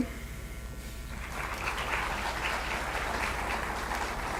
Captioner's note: applause